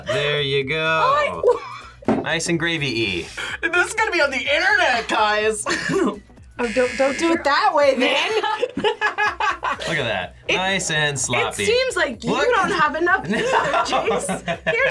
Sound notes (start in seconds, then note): 6.6 buzzer rings; 7.7 laughs